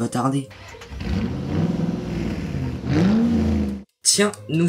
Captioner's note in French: Bruit de voiture